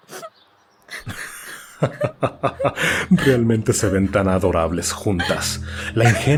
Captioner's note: laughs